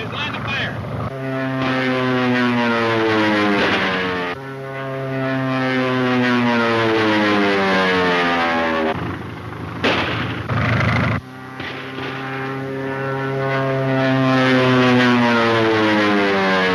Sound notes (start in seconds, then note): 1.5 plane engine roars; 3.0 gun fires; 4.7 plane engine roars; 9.8 gun fires; 11.5 plane engine roars